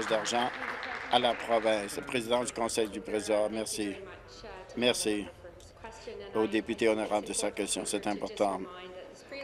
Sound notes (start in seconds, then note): 0.0 applause